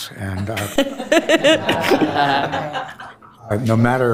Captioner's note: board Members laughing